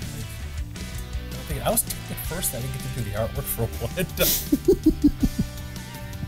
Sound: laughter

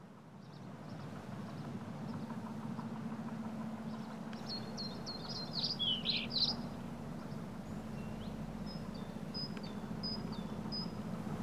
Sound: birds chirping

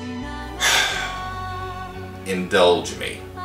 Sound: sighs

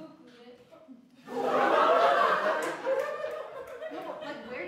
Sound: laughter

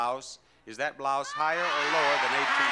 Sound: audience yelling

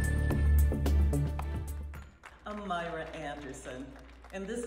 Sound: crowd applauds

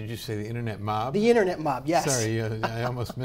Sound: laughs

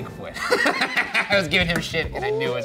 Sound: laughing

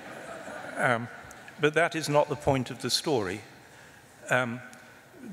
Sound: laughter

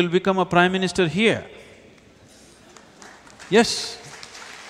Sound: applause

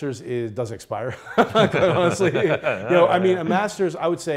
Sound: laughing

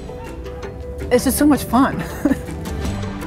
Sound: laughs

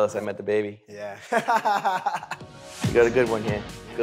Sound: laughs

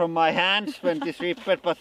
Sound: laughs

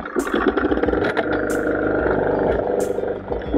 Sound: motor rumbling

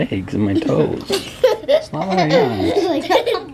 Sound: laughter

